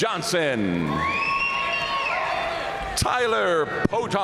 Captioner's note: audience cheering and applauding